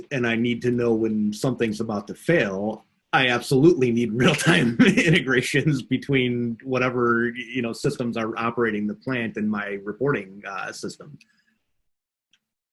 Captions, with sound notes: and I need to know when something's about to fail, I absolutely need (chuckles) real-time integrations between whatever you know systems are operating the plant in my reporting system.